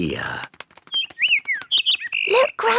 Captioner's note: bird